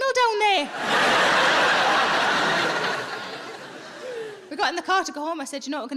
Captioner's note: audience laughing